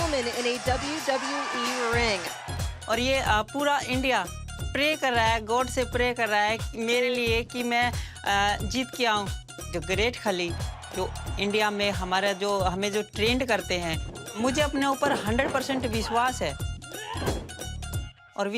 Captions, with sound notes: INDIAN WOMAN IN A WWE RING. [SPEAKING FOREIGN LANGUAGE]